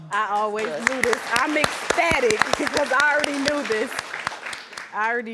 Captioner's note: audience applauding